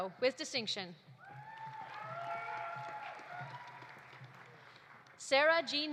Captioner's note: audience cheering; audience applauding